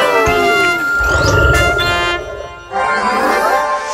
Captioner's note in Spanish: Rugido de león